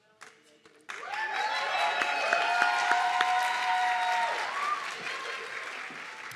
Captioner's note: audience clapping and cheering